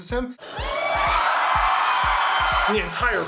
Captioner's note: audience cheering